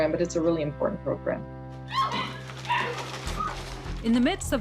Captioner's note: puppies barking